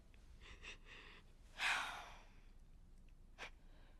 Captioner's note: sighs